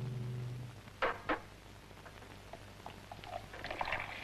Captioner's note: soft clattering